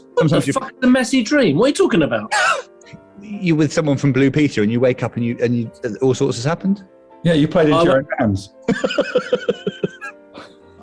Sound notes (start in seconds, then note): 2.3 sniggering; 8.6 laughing